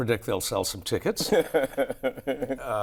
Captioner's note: laughter